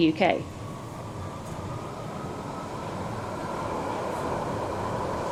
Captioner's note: train whirring